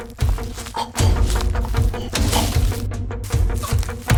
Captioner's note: choking